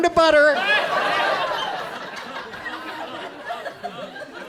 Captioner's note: audience laughs